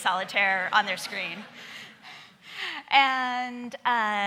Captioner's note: laughing